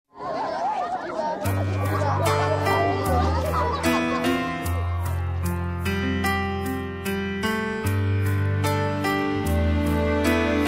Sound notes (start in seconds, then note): 0.1 children chattering; 2.0 soothing music